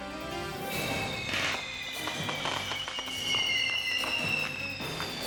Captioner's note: fireworks hissing and popping